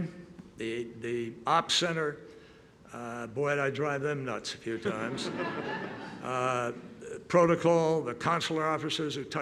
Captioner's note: laughter